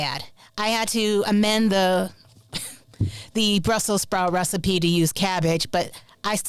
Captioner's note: chuckles